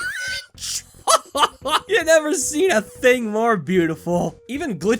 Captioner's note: laughs